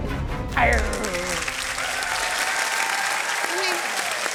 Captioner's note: applause